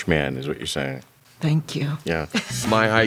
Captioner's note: chuckles